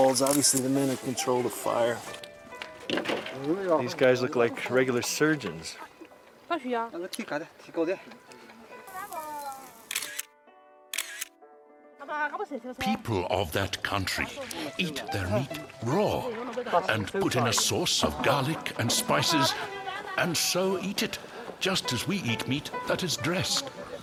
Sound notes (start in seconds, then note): 9.7 camera clicking